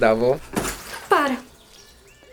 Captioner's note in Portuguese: Baque